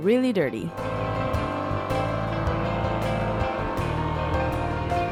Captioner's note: sprayer buzzing